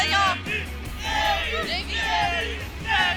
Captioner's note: shouting